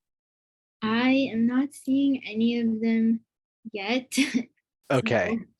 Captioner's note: giggles